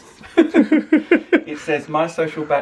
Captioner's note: laughs